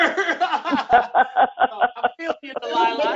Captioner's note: laughter